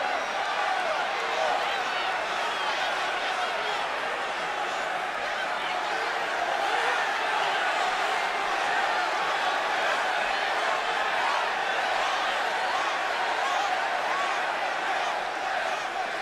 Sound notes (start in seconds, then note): 1.1 crowd chatter